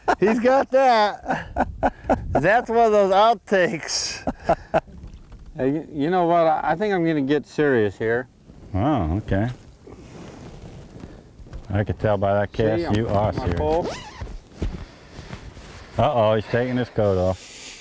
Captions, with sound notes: He's got that! [laughter] that's one of those out takes you know what i think i'm going to get serious here. huh. ok I can tell by that cast you are serious see how I hold my pole oh he is taking his coat off